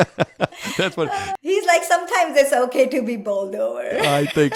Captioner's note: laugh